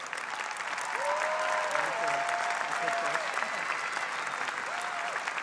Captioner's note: audience applause